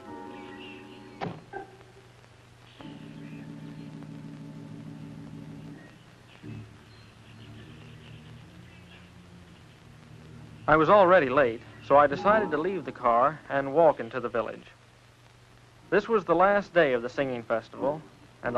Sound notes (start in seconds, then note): 1.2 door shutting; 3.2 birds chirping